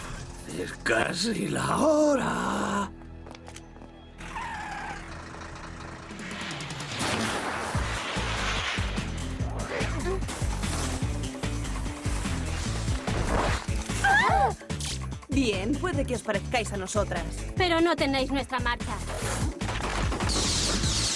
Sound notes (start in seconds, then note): 4.2 tires screeching